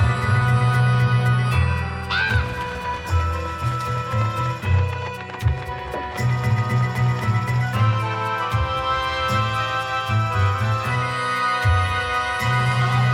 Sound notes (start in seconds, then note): 2.2 raven cawing; 3.3 dramatic, vaguely eerie orchestral music